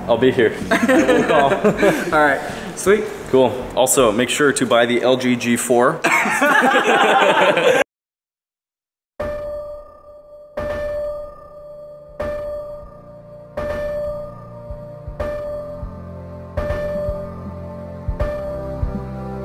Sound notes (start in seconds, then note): 5.2 laughing